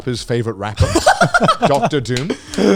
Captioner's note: both laughing